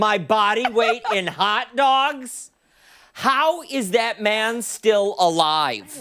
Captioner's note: laughter